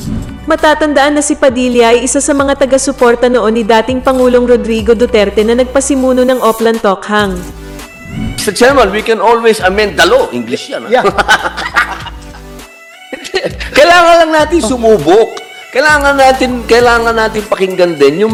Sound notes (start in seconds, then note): 11.0 laughing